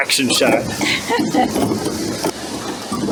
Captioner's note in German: Gelächter